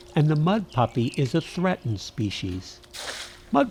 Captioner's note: splash